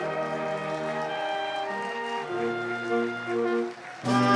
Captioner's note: applause